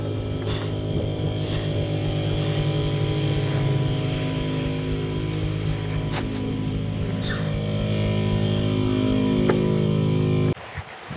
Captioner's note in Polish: w tle sąsiad uruchomił agregat